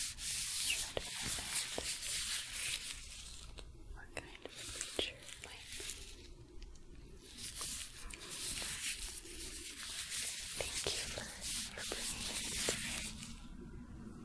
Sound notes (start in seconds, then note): 7.0 glove sounds